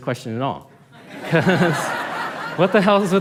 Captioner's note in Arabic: ضحك